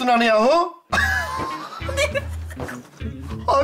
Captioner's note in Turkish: Gülme sesi